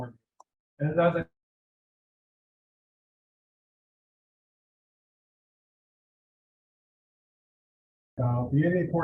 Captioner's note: audio drop